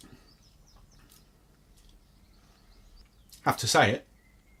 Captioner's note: smacks lips